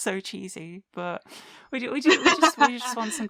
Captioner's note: laughter